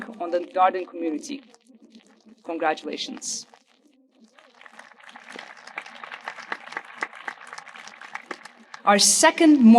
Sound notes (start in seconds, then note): 4.4 audience applauding